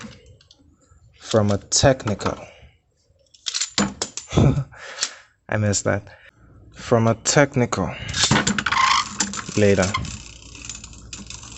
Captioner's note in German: lacht